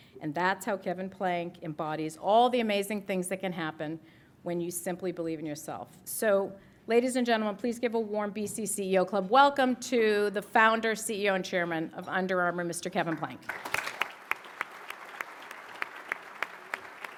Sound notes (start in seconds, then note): 13.4 applause